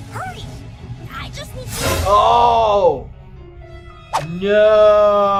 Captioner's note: yells